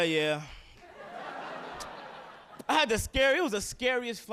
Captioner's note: audience laughing